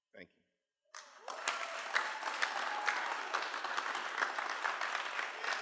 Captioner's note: cheering